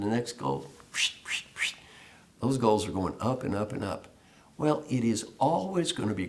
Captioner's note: whistle sound